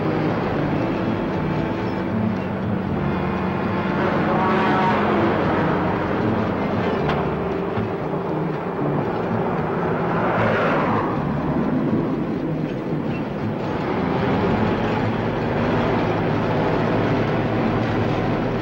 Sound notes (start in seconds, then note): 3.7 vehicles whizzing; 15.2 truck engine whirring